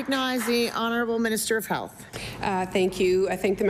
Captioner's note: applause